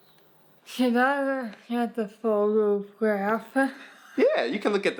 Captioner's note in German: lacht